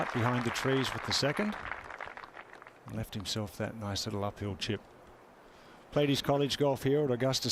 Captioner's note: applause